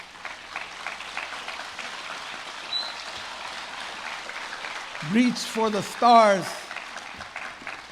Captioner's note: applause